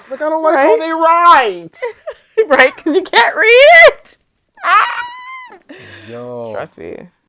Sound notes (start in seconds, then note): 4.6 screaming